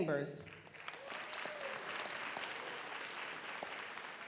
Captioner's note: audience applauds